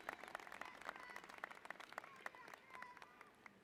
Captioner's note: applause